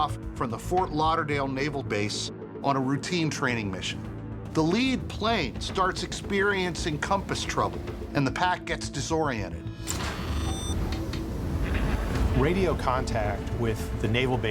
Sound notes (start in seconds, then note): 9.9 radar beeping; 10.8 switches clicking